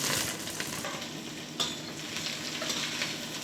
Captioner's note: sizzling, clattering of dishes